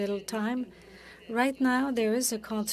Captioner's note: speaking French